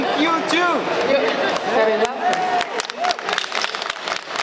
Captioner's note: applause